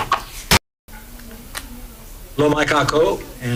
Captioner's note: gavel bangs